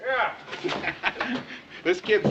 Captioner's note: laughing